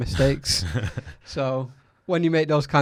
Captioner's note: laughs